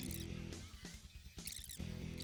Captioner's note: high speed motor humm